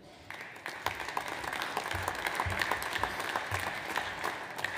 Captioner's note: audience applauds